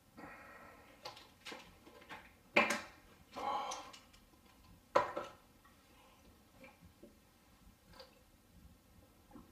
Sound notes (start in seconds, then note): 3.4 breathing